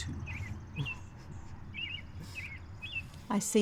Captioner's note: laughs